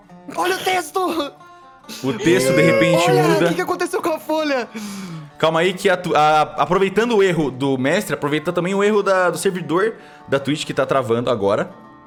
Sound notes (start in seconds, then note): 1.8 gasps